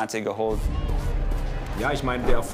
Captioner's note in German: Stimmengewirr